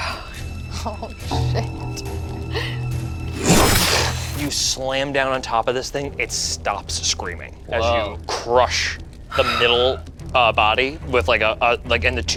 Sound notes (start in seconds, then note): 3.3 whooshes